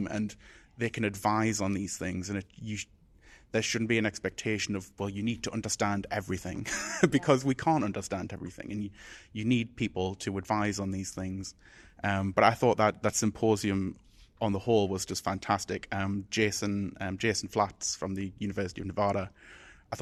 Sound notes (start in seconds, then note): 6.6 chuckles